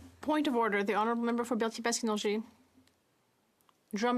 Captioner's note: speaking French